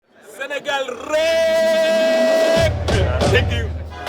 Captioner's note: non-english speech